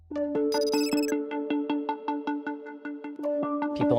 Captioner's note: digital tones